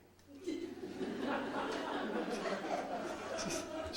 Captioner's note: audience laughs